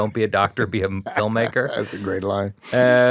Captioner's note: chuckles